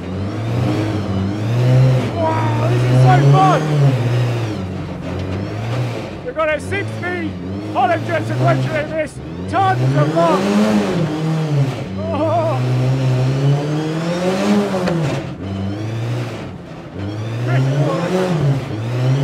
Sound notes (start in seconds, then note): 0.1 engine revving; 6.1 engine noise drowns out voice; 13.3 engine revving